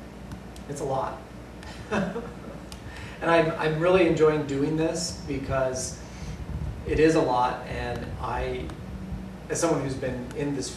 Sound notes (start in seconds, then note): 1.7 laughter